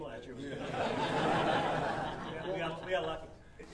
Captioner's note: audience laughing